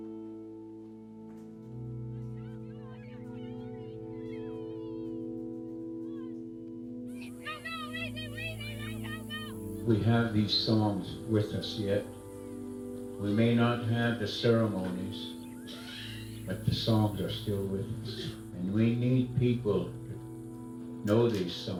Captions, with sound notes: (children shouting) - We have these songs with us yet. We may not have the ceremonies... but the songs are still with us. And we need people know these songs.